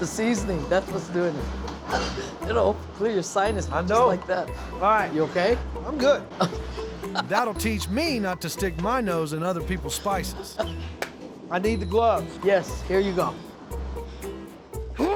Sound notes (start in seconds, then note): 7.1 laughing; 11.0 claps